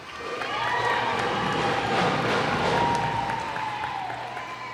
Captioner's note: cheers and applause